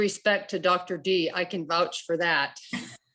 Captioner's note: laughs